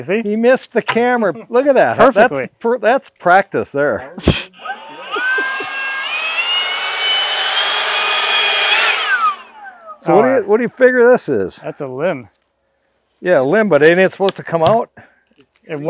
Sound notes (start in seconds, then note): 4.2 leaf blower whooshing